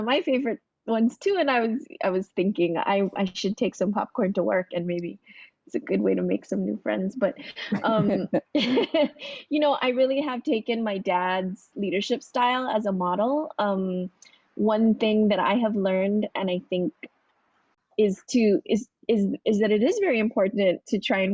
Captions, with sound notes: favorite ones, too. And I was thinking I should take some popcorn to work, and maybe it's a good way to make some new friends. [laughter] But you know, I really have taken my dad's leadership style as a model. One thing that I have learned, and I think...is that it is very important to try and